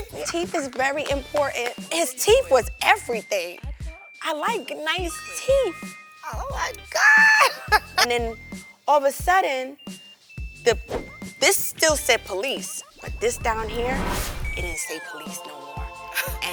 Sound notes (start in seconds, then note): 5.3 bell chimes